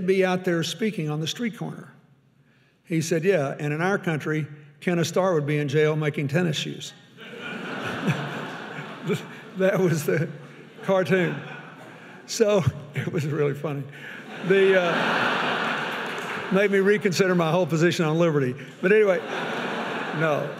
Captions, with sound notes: "they'd be out there speaking on the street corner." He said, "Yeah, and in out country, "Kenneth Starr would be in jail making tennis shoes." (audience laughing) (chuckles) That was the (chuckles) cartoon. So (chuckles) it was really funny. (audience laughing) It made me reconsider my whole position on liberty. But anyway, no.